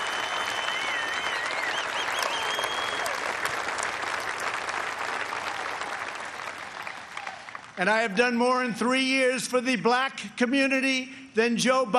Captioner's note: cheers and applause